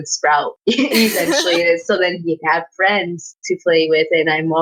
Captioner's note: giggling